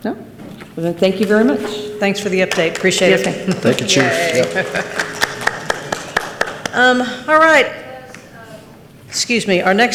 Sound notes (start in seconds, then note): 5.4 participant laughs; 5.4 participants clap